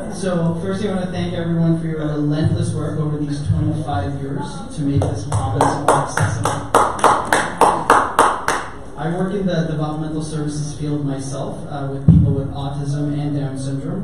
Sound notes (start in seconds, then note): 5.3 audience applause